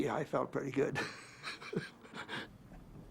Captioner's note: laughs